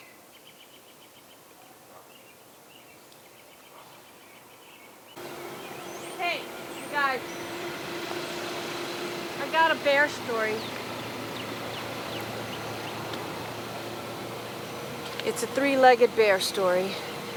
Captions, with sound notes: (birds chirping) - Hey, you guys. I got a bear story. (birds chirping) (car engine roaring) It's a three-legged bear story.